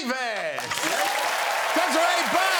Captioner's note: applause and cheering